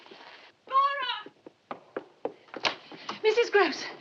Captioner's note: running footsteps